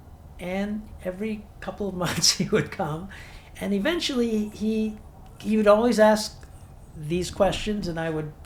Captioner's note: chuckles